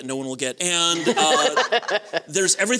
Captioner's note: laughter